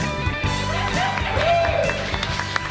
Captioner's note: laughing and cheering; clapping